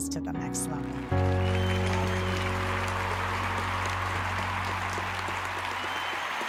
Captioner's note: audience cheering and applauding